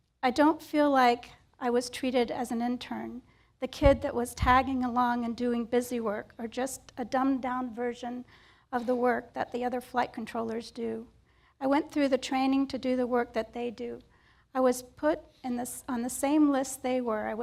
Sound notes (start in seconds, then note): none